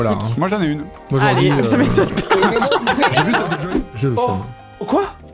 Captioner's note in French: Rire